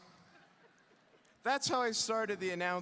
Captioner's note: audience laughing